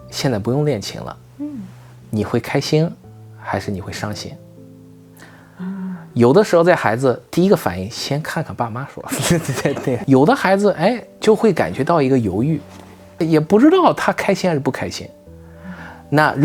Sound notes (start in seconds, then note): 9.1 laughs